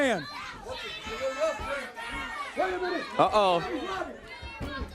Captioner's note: crowd chatter